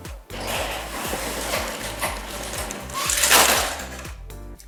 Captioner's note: screen snapping